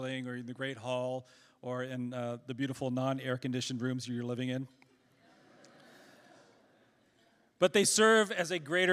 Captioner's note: laughter